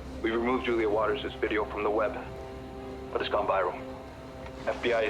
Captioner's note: none